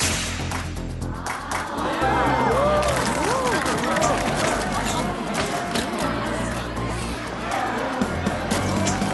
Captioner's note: techno; excited buzz